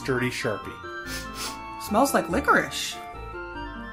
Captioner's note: sniffs